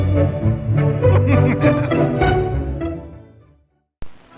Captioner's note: logo shimmers